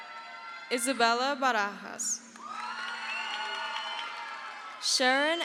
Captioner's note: crowd cheers